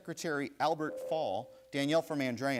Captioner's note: bell rings